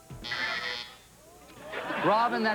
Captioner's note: buzzer